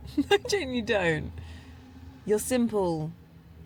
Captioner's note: laughs